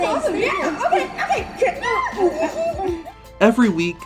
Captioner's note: chuckling